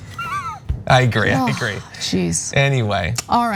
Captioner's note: laugh